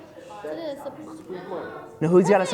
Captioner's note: students responding